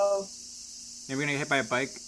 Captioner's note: crickets mostly likely; tsssssss